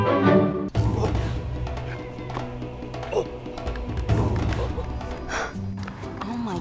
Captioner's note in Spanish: Ruidos de simio